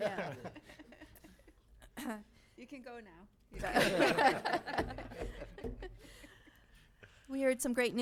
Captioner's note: laughing